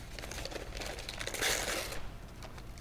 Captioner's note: paper tears